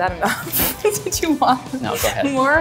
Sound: laughs

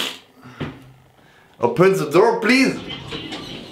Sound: doors opening

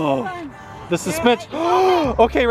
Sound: gasping

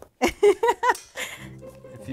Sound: laughs

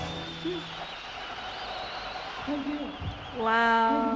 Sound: audience applauds

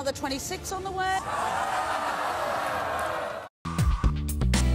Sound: audience yells and boos

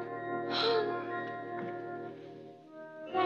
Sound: sighs

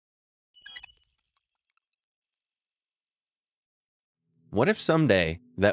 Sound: futuristic melodious beeps

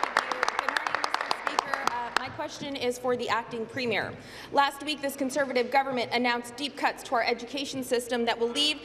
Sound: applause

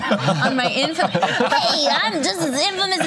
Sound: imitating child's voice

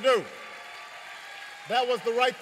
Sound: applause

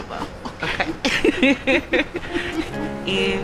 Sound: laughing

